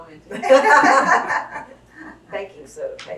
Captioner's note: laughter